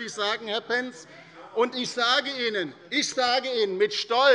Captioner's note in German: Zurufe von der CDU und der SPD